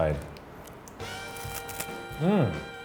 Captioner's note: chewing